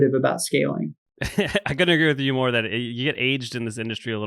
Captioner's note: laughs